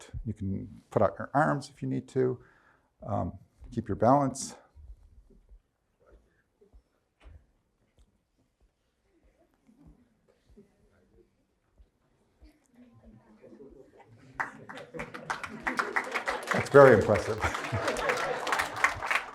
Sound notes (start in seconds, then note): 14.3 crowd applause; 18.5 laughs; 19.1 crowd applause